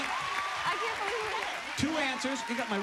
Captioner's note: cheers and applause